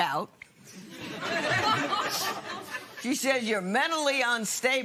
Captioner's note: laughter